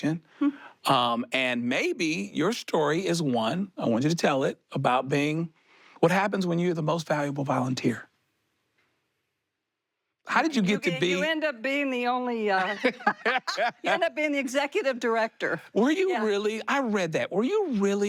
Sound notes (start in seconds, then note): 12.6 both laugh